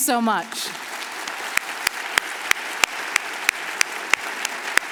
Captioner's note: audience applauds